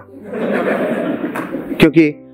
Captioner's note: laughing